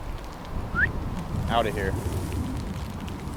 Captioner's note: whistles